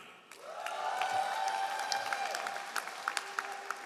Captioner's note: all applauding